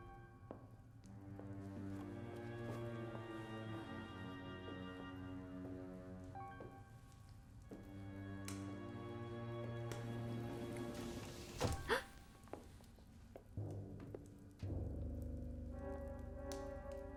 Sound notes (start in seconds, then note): 11.8 thud; 11.8 gasps; 13.4 dark brooding music